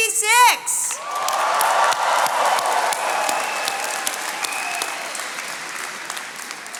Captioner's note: attendees cheering and clapping